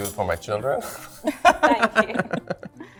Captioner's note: laughs